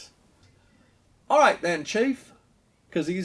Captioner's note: English accent